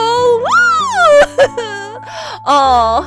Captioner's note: fangirl squee